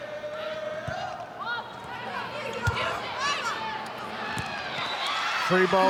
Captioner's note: ball thumping; players shouting indistinctly